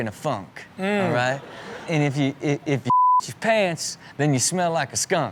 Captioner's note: beep